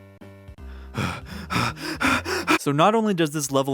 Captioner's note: heavy breathing